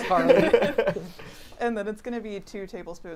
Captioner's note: all laughing